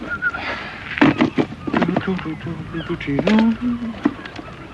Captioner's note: humming